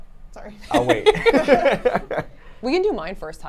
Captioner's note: laughs